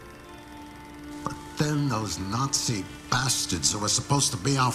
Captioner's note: beeping